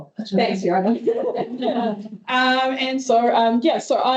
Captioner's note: speaker laughing